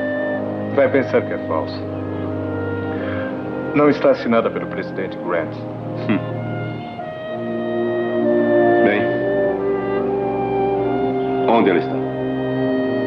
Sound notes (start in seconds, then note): 5.4 chuckles